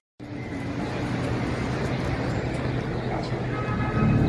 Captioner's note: parking lot noise